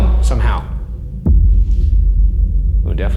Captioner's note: air rumbles